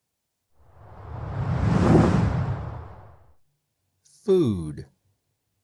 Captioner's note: air swooshing